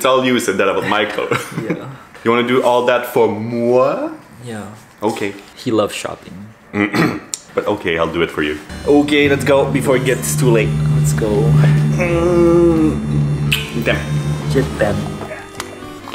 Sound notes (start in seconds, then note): 0.0 laughing; 6.8 clears throat